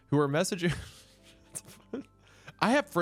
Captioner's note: laughs